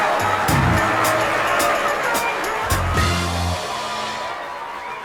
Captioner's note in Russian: аплодисменты